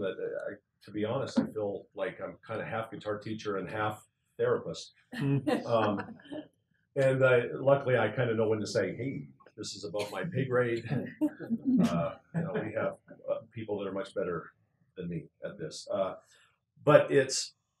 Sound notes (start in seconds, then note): 5.2 laugh